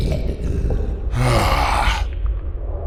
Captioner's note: Acoleyet sighs, annoyed